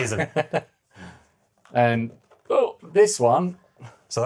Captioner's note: laughing